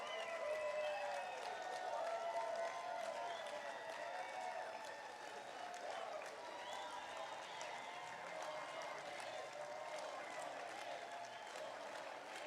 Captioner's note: applause